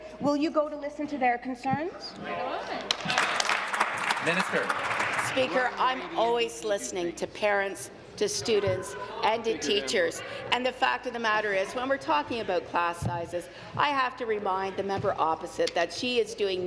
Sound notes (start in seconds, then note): 5.5 applause